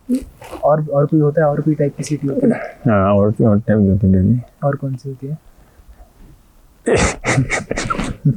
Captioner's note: laughs